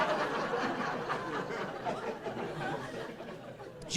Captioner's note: laughing